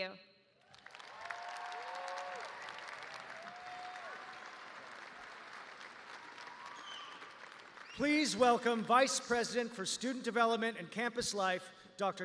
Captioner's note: cheers and applause